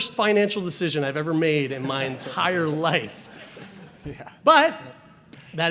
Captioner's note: audience laughs